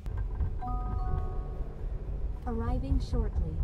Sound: electronic chime

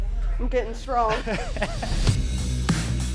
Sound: laughter

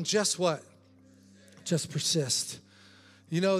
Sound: congregation chattering

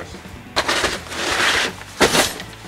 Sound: scraping; thudding

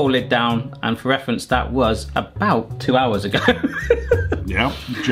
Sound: laughs

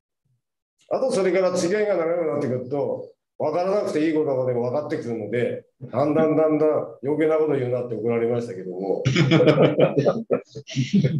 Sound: laughs

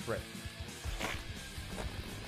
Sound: quick fart sound effect

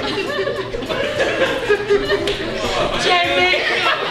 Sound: laughing

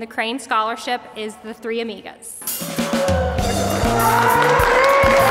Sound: team gasps; applause

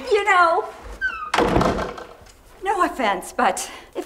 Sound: door slams

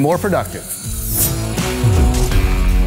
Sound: metal swishing; upbeat music

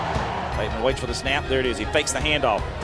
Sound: voiceover

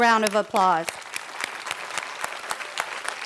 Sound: applause

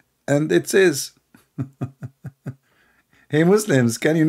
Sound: L aughter

